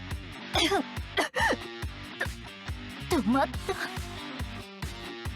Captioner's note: cough, cough